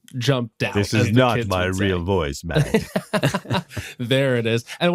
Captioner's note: laughter